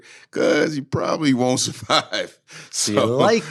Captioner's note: laughing